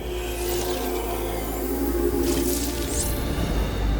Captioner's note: sparkling